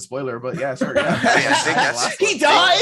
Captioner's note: laughing